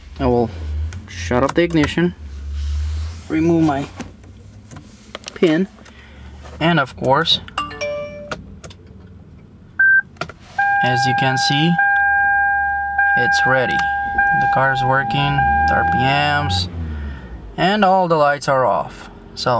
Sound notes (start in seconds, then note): 7.6 phone chimes; 10.5 car beeps